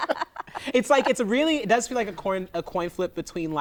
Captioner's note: laughter